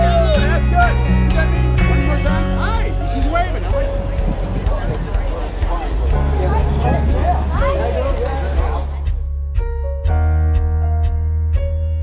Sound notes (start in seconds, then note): 5.0 background chatter; 8.3 music fades out